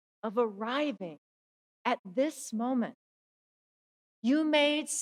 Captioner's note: none